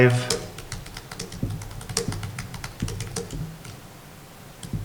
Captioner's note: keyboard clacking